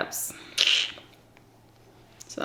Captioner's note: sucks teeth